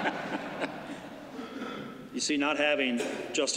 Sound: laughter

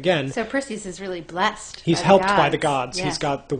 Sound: voiceover

